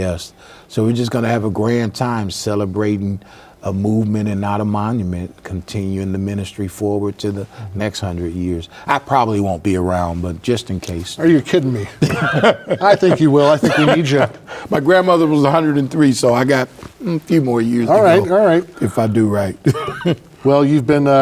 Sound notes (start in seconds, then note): 11.8 laughing; 19.6 chuckling